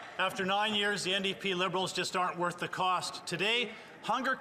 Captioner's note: some Applause